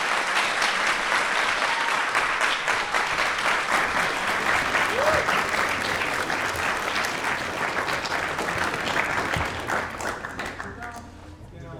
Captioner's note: applause